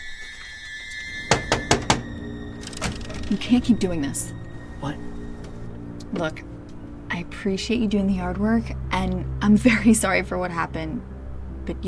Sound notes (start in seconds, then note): 1.2 Nick knocking